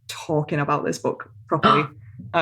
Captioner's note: gasps